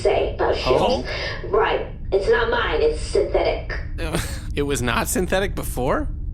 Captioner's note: bewildered laugh